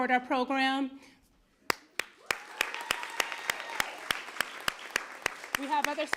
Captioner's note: applause